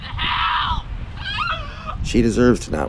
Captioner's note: bit of wailing